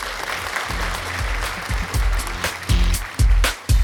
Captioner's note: applause; upbeat music